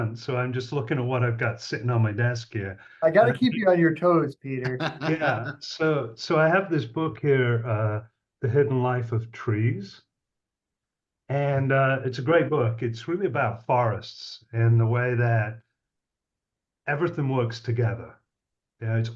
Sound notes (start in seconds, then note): 3.1 laughs